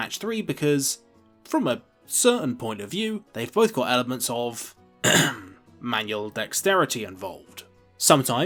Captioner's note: ahem